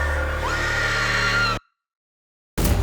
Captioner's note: screams